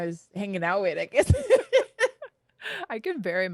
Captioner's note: both laugh